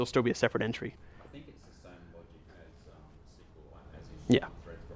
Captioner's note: voiceover